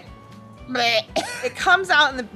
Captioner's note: vomit sound